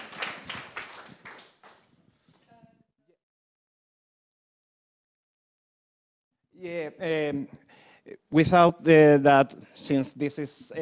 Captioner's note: applause